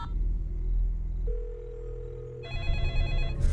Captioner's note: line ringing; phone ringing